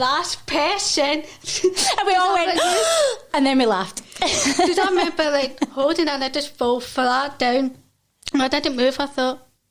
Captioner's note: gasp